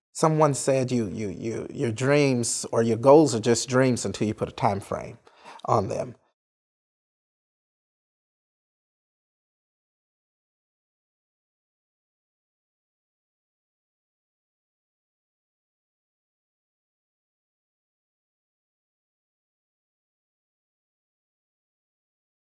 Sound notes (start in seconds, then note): 6.0 no Audio/Silence